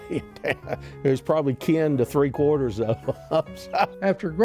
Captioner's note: laughs